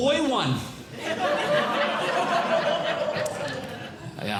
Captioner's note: audience Laughing